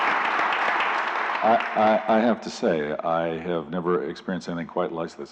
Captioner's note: applause